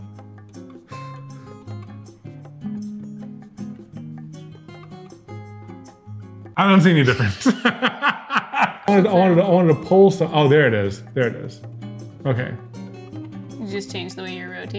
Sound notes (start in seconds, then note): 7.0 laughing